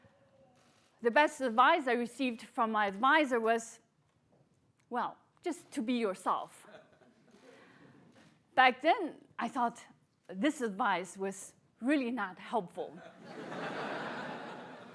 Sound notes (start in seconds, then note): 13.0 laughter